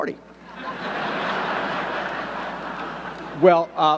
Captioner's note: audience laughing